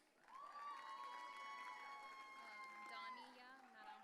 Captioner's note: audience cheering